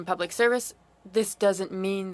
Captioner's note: speaking French